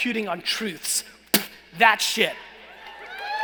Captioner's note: spits